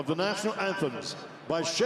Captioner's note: speaking French